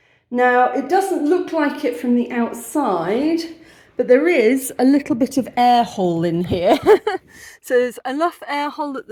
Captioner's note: laughing